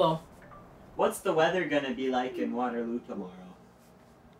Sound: phone beeps

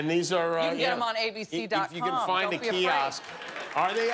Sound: cheers and applause

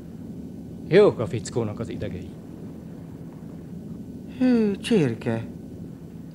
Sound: sighs

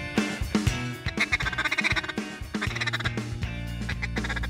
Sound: duck quacking

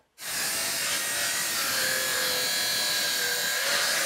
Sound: saw buzzing

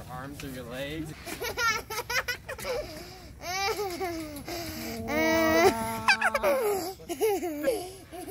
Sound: laughing

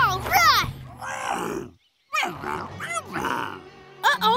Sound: grunting

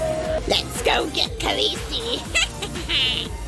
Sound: creepy laughing

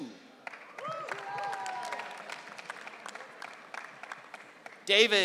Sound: audience cheering

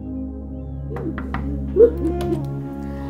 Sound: door knocks

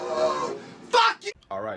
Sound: yelling

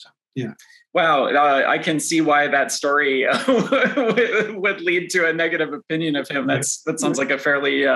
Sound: laughs

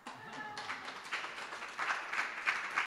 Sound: audience clapping

